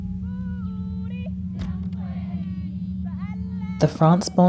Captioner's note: dissonant music; chanting